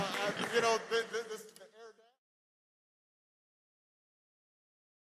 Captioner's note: applause